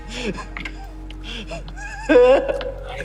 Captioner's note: sobbing